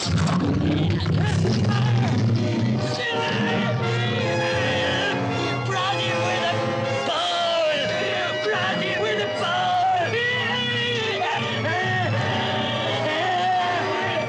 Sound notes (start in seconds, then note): 0.3 bear snarls; 2.5 Monsieur Vanet yells; 2.5 suspenseful orchestral music; 10.5 Vanet yelling